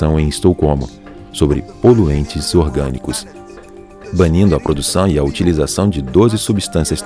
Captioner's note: POPs